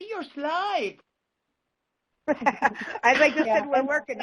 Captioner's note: both laugh